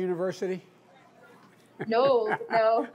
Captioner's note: laughs; laughter